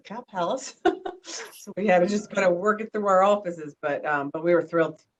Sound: laughter

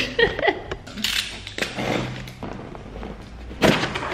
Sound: chuckling; ripping

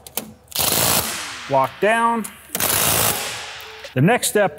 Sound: torque wrench buzzing; torque wrench buzzing

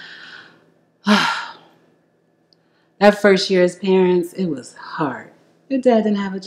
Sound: sighs loudly

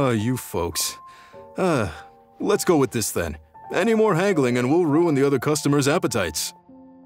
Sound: sigh

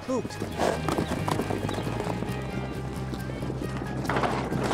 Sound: horse hooves clopping

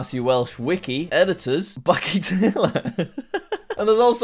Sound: laughs

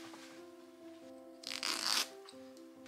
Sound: frrrrosh of seam ripper

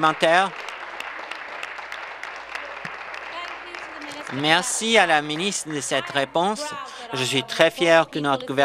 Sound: applause

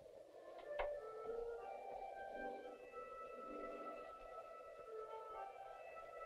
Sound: gentle instrumental music; wind howling

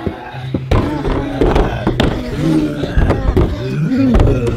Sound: banging door

